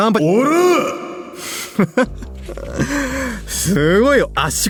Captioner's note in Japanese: 笑い